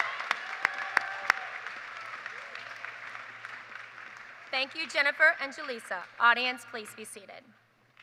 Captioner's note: applause